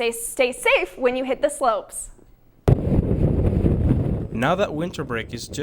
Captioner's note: wind rustling